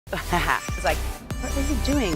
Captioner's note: laughing